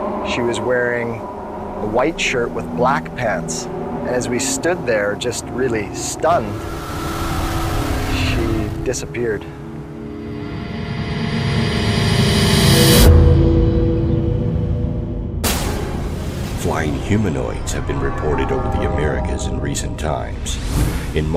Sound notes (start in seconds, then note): 6.7 muffled screaming; 10.7 suspenseful music